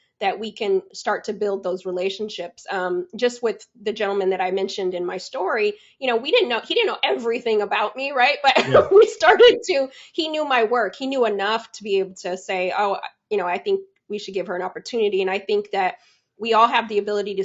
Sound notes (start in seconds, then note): 8.5 laughs